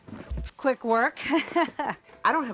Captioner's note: laughs